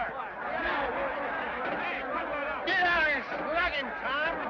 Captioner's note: men shout